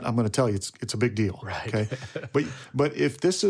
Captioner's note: laughs